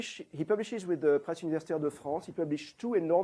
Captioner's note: non-english